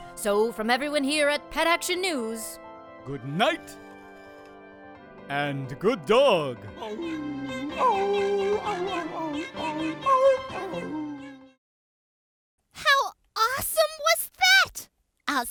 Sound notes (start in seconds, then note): 6.8 dog howling; 6.9 cat mewling